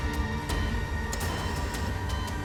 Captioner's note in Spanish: Sonido de la telemetría